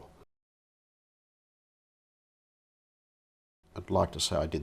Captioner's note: silence